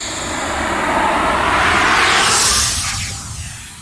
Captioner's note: text whooshing